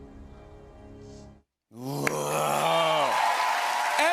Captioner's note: cheers and applause